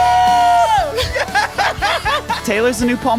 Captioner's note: group laughing